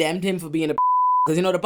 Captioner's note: beep